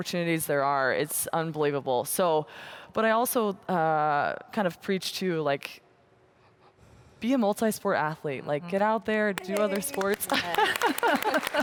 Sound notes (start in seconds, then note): 10.2 laughter